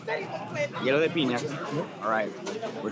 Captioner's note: in Spanish